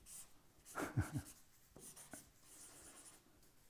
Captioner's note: laughing